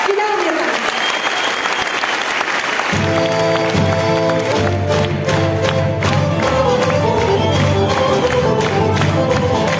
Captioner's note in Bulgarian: аплодисменти